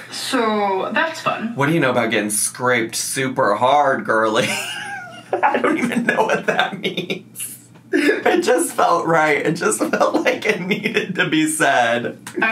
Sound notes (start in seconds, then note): 4.4 laughs